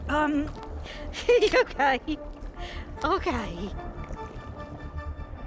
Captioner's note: laughing nervously